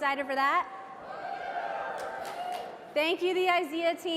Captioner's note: audience applauds and cheers